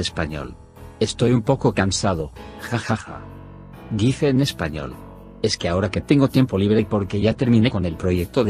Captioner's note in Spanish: dice en espanol